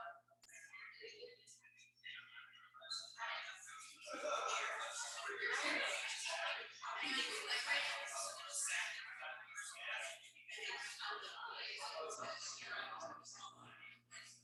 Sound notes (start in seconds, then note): 9.2 people chattering indistinctly